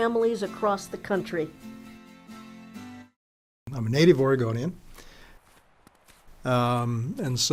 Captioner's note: sound of footsteps in the woods